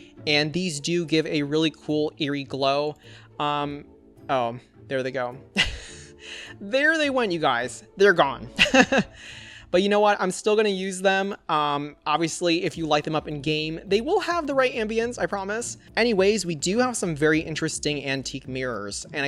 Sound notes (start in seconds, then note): 5.6 chuckles; 8.6 laughs